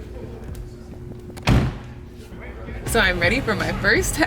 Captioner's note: car door slams